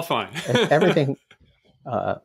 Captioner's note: chuckle